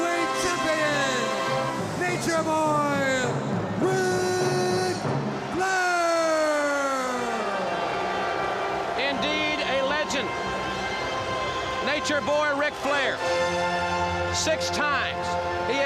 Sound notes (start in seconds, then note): 7.1 crowd cheering